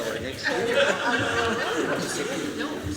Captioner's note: laughter